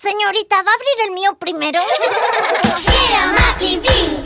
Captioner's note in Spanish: Risas